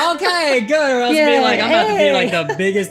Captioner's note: celebration noises